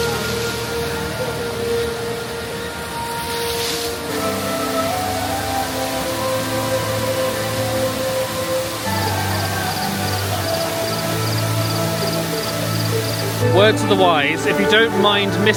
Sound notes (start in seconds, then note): 0.1 water flowing; 4.8 soft orchestral music; 9.1 crickets chirping